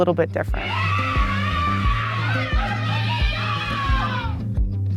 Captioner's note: group cheering